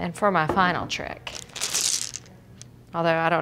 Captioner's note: crinkle